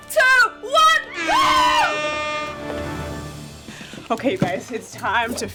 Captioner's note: air horn blowing